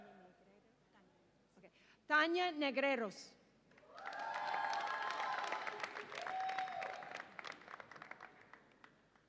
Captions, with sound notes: Tania Negreros. (audience applauds and cheers)